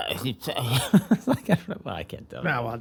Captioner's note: laughter